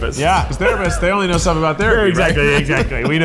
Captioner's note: laughs